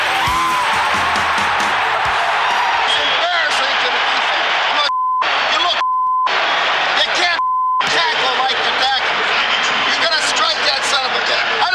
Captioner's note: buzzer